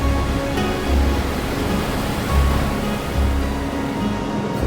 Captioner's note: water splashing